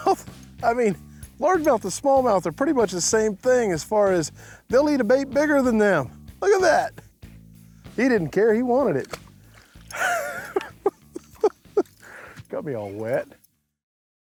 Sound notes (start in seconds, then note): 9.9 laughing